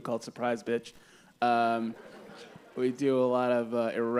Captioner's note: laughter